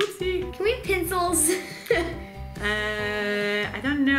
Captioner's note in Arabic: يضحك